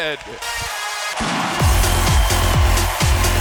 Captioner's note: cheers